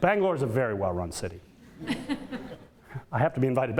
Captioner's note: audience laughter